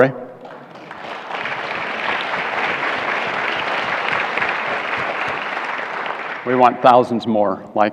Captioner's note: applause